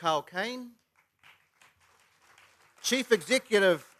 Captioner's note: applause